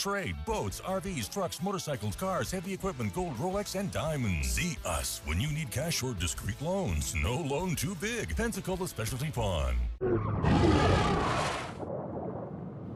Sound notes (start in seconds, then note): 10.0 shark roaring